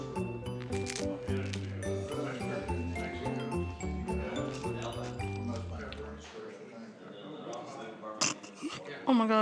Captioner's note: chewing crackers; giggles